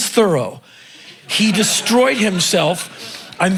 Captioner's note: crowd laughing